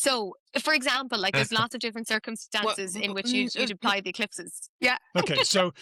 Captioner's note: laughs